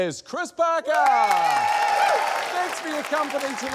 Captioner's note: cheering, applause